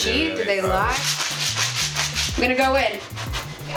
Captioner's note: rattling